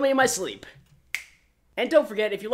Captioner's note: snaps fingers